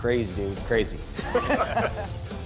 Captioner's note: laughter